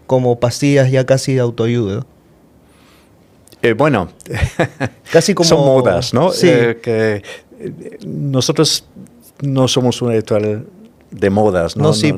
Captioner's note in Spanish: risas